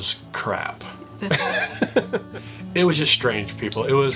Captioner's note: chuckles